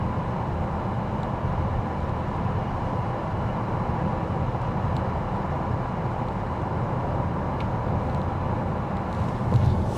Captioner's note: engine roaring